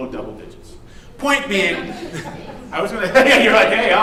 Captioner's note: laughing; laughs